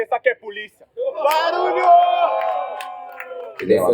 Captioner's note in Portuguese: barulho da plateia ao fundo